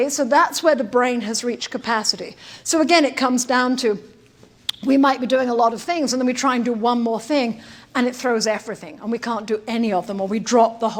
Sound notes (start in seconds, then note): none